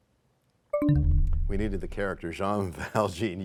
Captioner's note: bell chimes, time expires